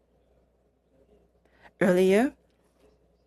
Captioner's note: speaking French